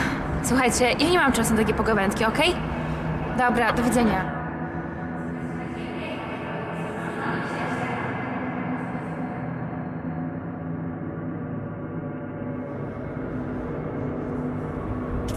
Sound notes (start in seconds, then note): 5.9 Laurencja's inverted voice